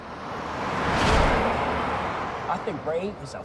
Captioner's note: car rumbling